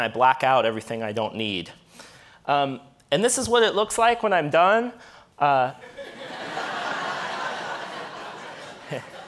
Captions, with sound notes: I black out everything I don't need, and this is what it looks like when I'm done. (audience laughing)